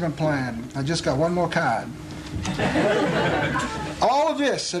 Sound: laughter

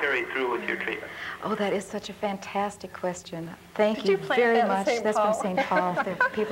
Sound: laughing

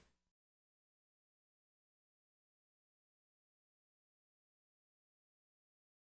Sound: silence

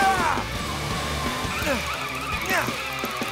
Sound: grunting; grunting

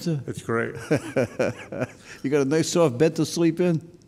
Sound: laughs

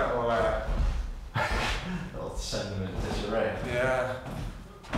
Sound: laughs

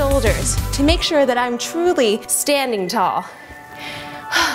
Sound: sighs

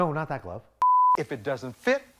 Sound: beep

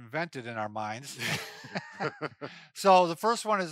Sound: laughing

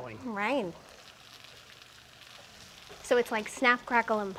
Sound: sizzling

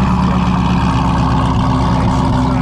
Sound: car engine running

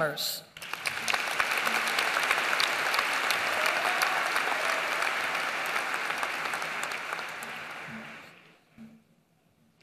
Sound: applause

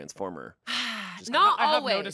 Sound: sighs

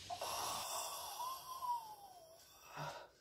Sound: moaning

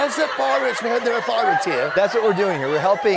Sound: laughter

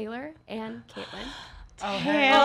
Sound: gasping

